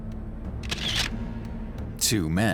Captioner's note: camera shutter clicks